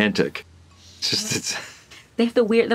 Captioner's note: chuckles